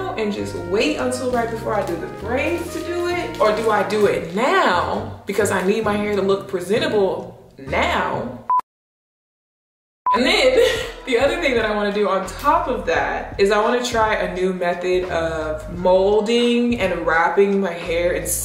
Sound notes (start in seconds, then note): 10.0 beep